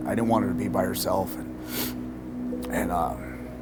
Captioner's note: snifflilng